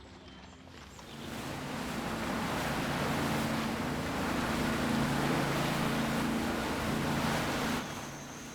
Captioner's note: waves lapping